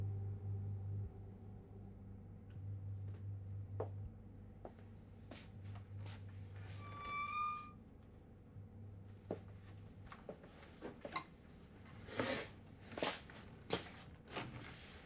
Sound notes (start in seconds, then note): 3.6 footsteps approach; 6.8 hinge creaks